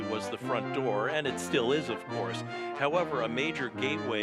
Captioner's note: none